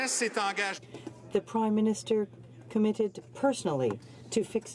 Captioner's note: some Applause